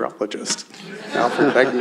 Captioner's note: laughter